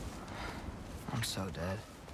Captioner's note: sigh